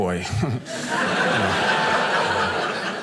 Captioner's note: audience laughing